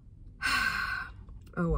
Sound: sigh

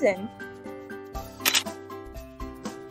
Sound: camera click

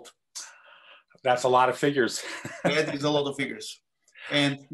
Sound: laugh

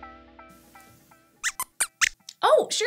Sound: squeaks squeaks

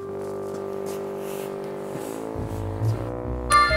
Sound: walking

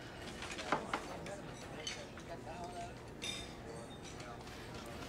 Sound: silverware clinking

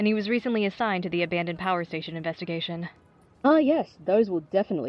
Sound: none

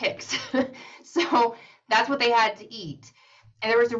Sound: laughs

